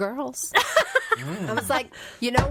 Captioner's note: laughs